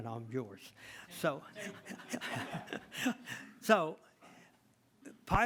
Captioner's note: all laugh